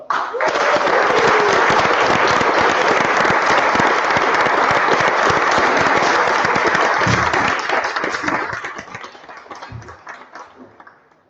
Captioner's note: applause